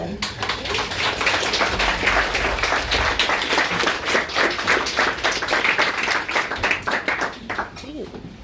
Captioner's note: applause